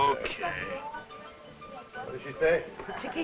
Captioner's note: Chiquita speaking foreign language